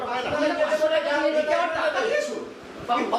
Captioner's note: banter continues